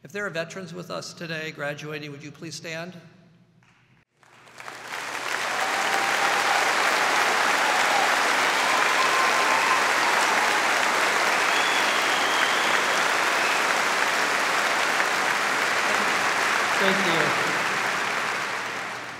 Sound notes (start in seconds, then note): 4.2 audience applauding